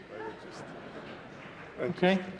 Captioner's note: laughter